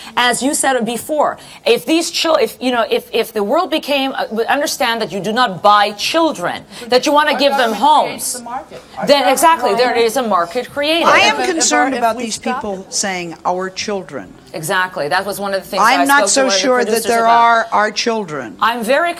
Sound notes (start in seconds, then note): none